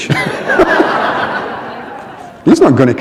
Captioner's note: laughter